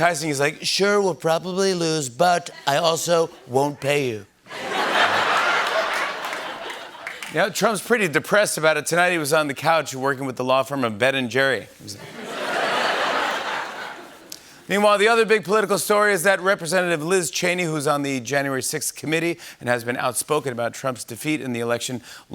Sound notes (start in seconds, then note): 4.5 laughter; 12.0 laughter